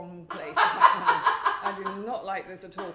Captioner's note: chuckles